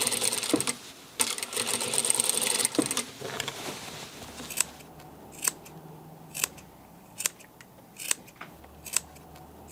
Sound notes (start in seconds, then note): 5.3 cutting noises